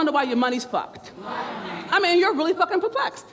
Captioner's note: murmurs